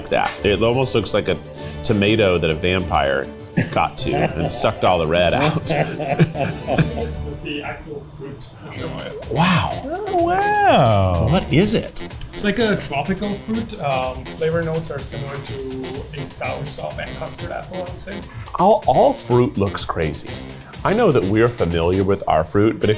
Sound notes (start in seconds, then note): 5.3 both laughing